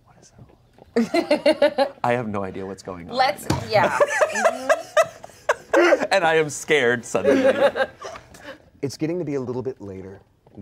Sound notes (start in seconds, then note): 1.0 laughs; 3.8 everyone laughs